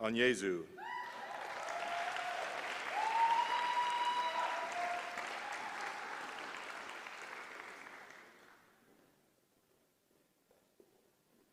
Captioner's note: applause